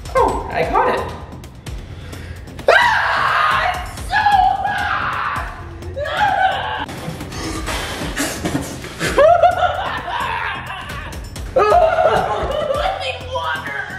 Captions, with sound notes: - Oh, I caught it. (screams in pain) It's so hot! (blowing loudly) (screaming) (screaming) I need water.